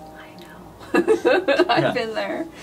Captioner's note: she laughs